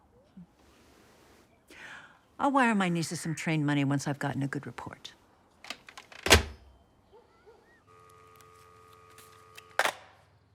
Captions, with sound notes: Hm. I'll wire my nieces some train money once I've gotten a good report. [dial tone]